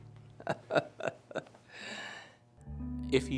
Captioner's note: laughs